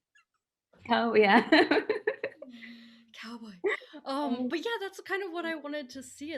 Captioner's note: laughing